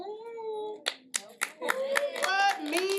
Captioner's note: applause